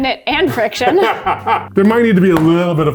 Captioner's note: both laughing